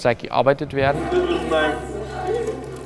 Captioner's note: conversations in the background